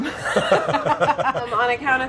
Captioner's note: laughing